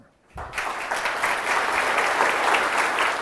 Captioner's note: applause